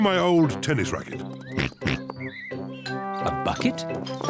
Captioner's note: oinks